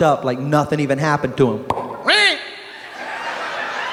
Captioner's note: pop